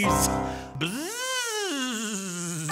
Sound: buzzing

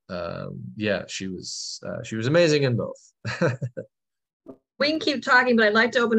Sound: laughter

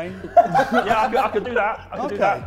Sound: Sidemen laughing

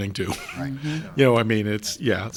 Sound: chuckles

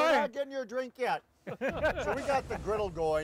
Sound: laughing

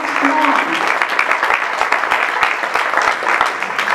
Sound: applause

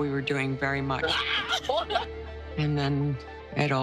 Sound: women laughing

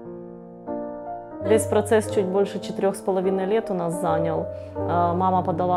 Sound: speaking Ukrainian

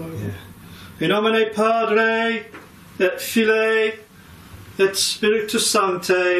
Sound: talking in foreign language

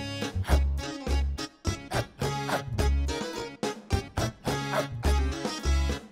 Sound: light whimsical folk music; person barking to beat; whimsical folk music

